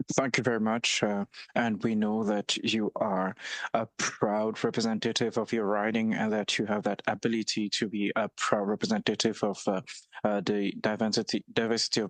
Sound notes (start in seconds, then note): 6.8 speaking French